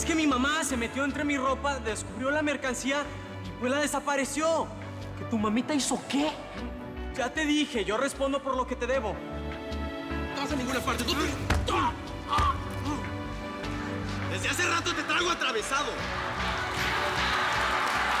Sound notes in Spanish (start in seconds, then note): 11.3 Golpes